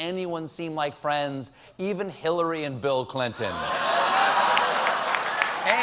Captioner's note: applause